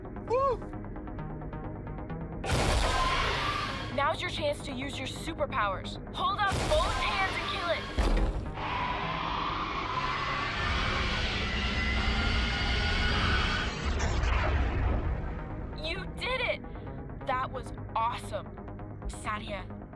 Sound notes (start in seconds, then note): 2.8 screech; 13.7 explosion